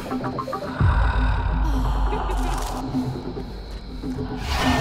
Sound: heaving breathing

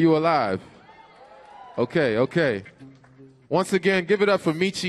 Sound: audience cheers

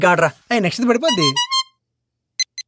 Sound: message tone

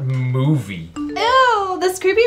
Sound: text message alert sounds

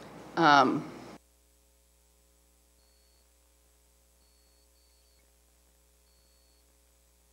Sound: tape stops

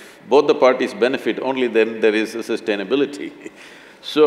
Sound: laughs

